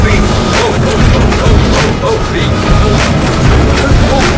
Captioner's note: grunts